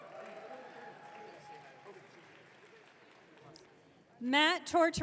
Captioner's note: audience cheering